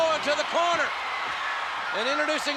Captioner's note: spectators cheering